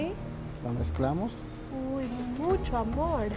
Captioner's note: speaking Spanish